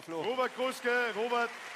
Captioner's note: applause